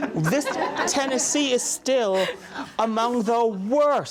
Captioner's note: audience laughs